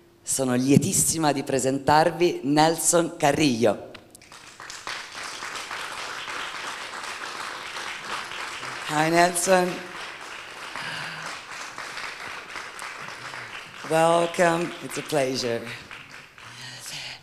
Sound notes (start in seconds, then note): 4.1 applause; 10.1 applause; 16.1 applause